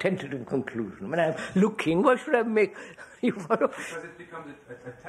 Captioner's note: laughs